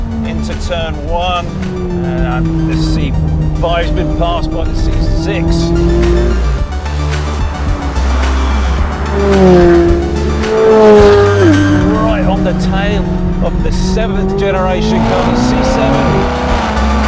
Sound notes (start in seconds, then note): 6.5 high intensity techno music; 9.8 engine roaring